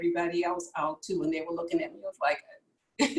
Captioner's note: laughs